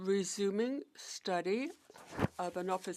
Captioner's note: speaking French